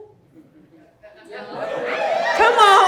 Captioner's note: audience laughing and cheering